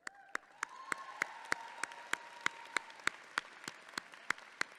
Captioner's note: audience clapping; claps